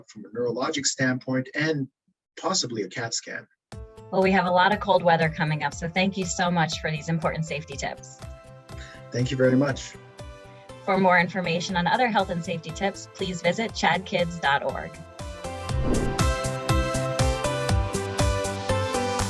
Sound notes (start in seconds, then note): 15.6 wind whooshes; 16.4 upbeat music